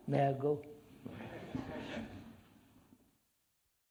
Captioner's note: laughter